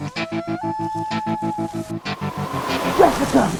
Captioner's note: animal squawks; images whooshing